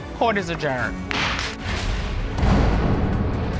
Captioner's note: gavel bangs